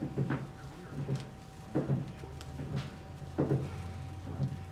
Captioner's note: machine rocks